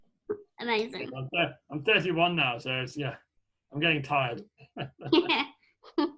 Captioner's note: laughter